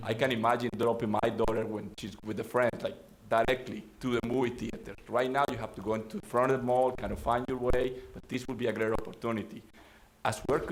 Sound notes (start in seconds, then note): none